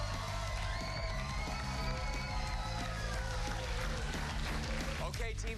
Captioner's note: cheers and applause